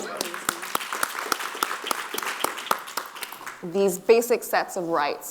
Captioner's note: audience applauding